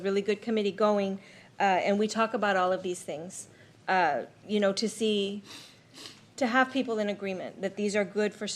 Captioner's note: snorts